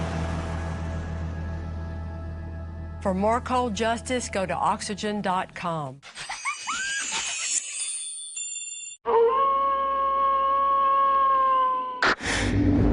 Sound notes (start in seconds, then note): 6.1 giggles